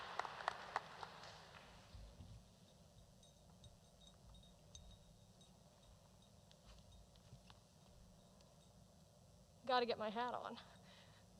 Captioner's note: applause